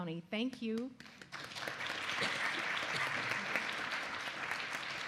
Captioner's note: audience applauds